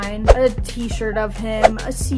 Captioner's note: air whooshes; air whooshes